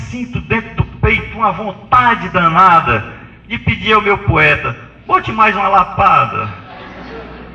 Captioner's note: risos